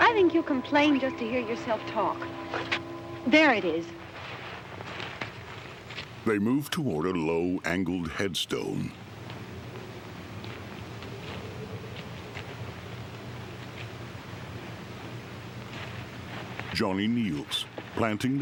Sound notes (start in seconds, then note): 6.0 wind blowing